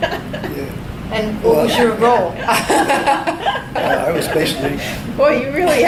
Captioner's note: everybody laughs